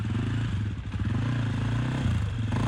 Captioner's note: engine revving